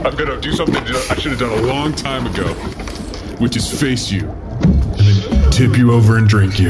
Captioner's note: unlatches helmet